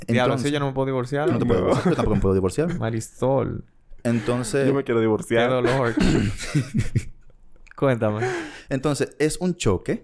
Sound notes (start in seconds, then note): 6.8 laughs